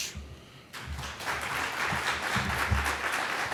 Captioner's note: applause